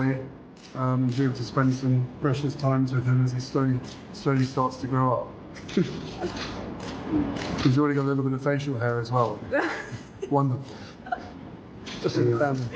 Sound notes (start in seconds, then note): 5.6 laughs; 7.3 shutters clicking; 9.5 Meghan laughs